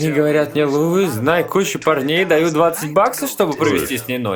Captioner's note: chuckling